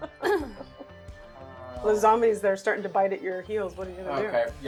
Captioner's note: laughing